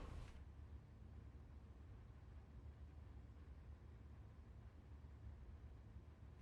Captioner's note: door opening and closing